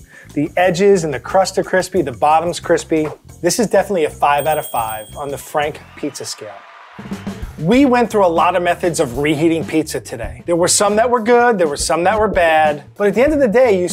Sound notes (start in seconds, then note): 7.0 cheering